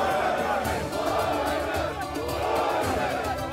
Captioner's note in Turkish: Hep bir ağızdan